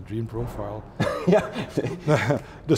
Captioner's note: laughs